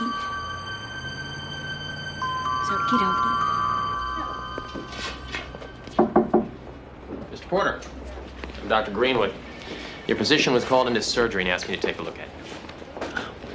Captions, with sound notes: Okie dokie. Okie dokie. (doctor knocking) - Mr. Porter, I'm Dr. Greenwood. Your physician was called into surgery and asked me to take a look at you.